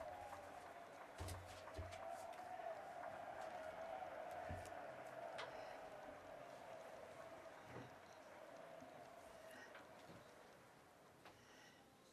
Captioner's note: some Applause